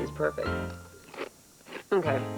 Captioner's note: crunch